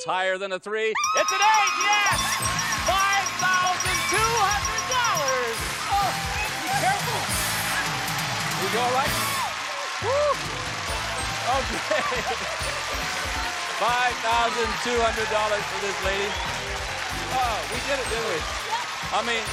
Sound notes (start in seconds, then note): 5.4 applause; 6.7 theme music playing; 12.9 applause